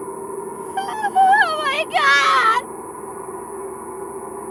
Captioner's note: sobbing